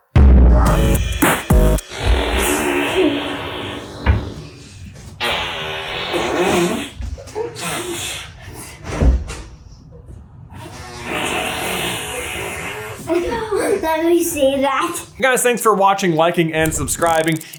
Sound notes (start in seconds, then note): 0.1 outro Theme Music; 1.9 face farrrrrrrrrrrrrrrrrrrrrrrrrrrt; 13.0 giggles